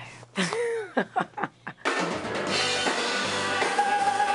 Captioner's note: laughs